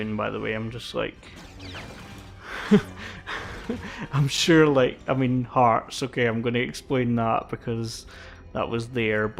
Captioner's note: laughs